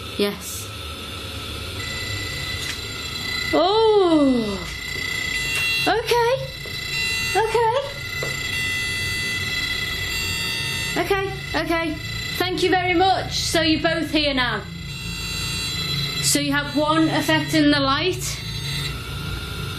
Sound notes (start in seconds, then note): 1.8 ringing; 7.1 steady ringing